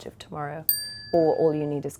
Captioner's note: bell dinging